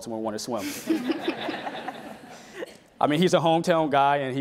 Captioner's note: laughing